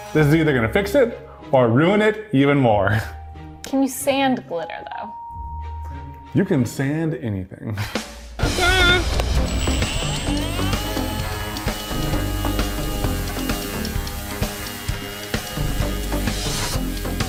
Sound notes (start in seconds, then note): 9.0 sander whirring; 10.3 upbeat music